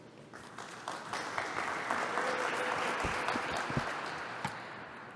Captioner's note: applause